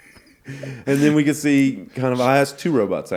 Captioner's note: laughing